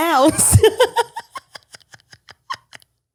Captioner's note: laughs